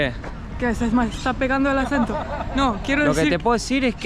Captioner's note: with a Spanish accent